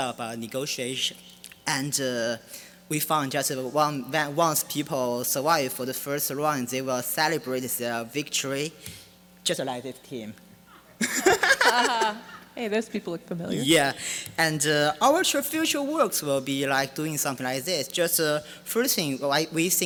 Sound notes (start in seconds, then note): 10.9 laughing